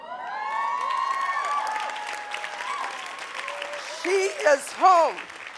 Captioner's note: audience applauding